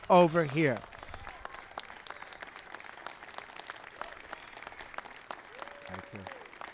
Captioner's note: applause